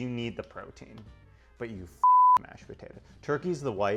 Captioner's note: beep